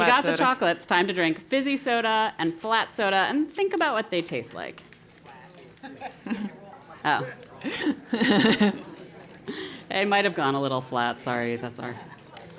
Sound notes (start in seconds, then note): 5.7 laugh